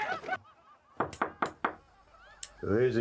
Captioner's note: knuckles rapping